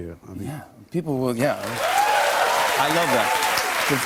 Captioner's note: cheers and applause